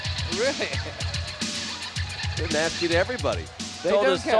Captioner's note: laugh